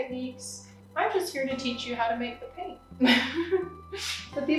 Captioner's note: giggles